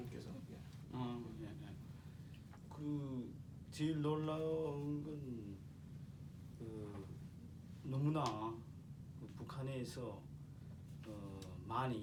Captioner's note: speaking korean